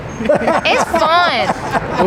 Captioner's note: interviewer laughs